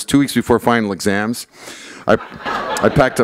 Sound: laughter

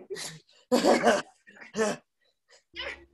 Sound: satisfied laugh

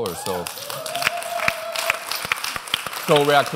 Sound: applause

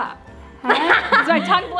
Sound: laughing

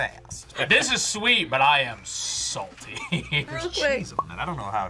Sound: chuckles

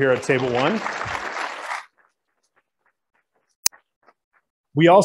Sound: applauding

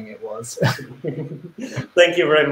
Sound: laughs

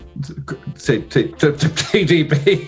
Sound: stammers; laughing

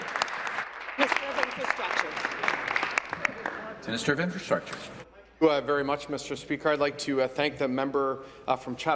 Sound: applause

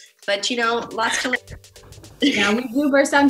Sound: laughing

